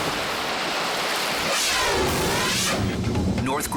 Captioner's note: air whooshes